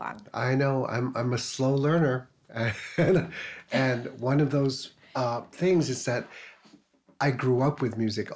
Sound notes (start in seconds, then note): 2.6 chuckles